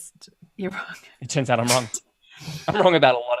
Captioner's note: laughs